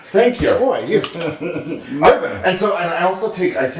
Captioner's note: laugh